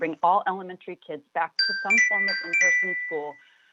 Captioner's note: chime